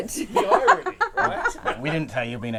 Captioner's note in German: lacht